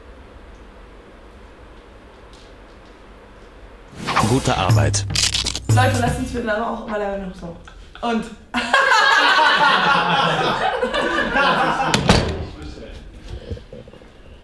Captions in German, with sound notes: Leute, lasst mal noch lachen oder so Und... [alle lachen]